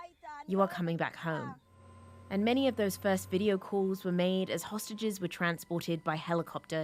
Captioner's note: speaking alternate language